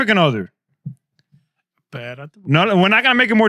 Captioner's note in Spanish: Hablando en idioma extranjero